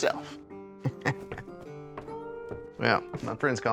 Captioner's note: chuckles